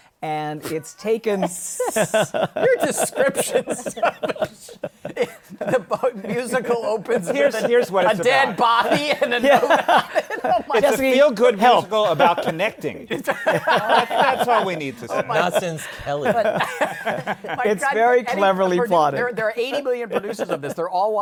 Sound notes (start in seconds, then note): 1.7 laughter